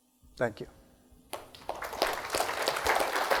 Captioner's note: applause